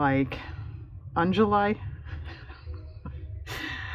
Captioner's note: laughs